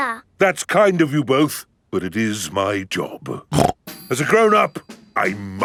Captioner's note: snorts